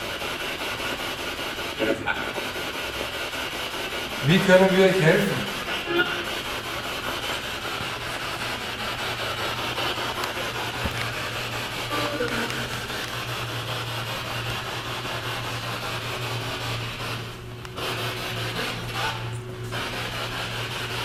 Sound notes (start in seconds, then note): 7.1 radio noise from the spirit box